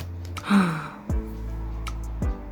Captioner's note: gasp